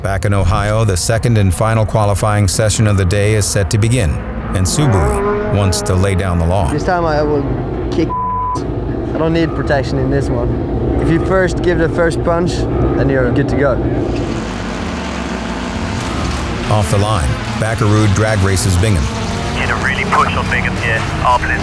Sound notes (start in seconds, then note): 8.1 beep